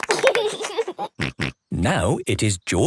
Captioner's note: laughs